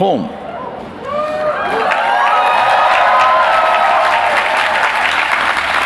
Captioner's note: cheers, applause